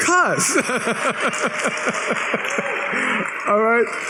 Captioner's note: laughs